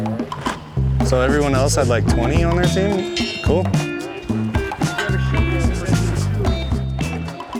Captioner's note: background chatter